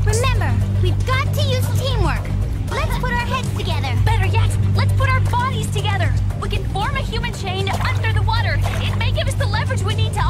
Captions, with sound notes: The water must have caused a short circuit. Remember, let your spy intuition be your eyes. [gurgling] [splash]